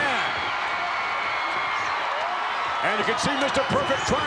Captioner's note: crowd shout